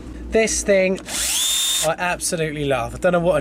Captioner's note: drill whirring